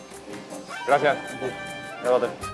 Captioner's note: speaking Spanish